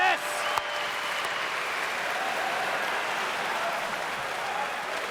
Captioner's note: audience cheers